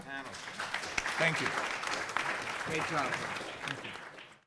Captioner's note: everyone clapping